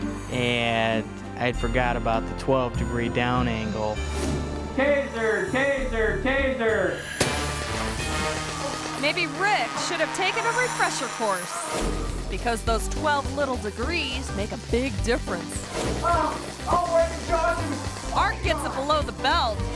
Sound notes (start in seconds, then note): 4.2 image whooshes; 7.2 electricity buzzing; 16.0 electricity buzzing; 16.0 grunts and groans